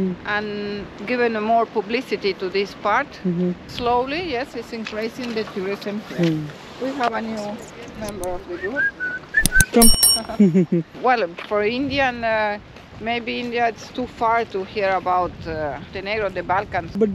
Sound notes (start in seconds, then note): 8.5 whistles